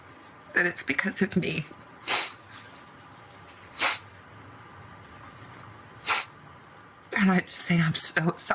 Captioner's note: snorts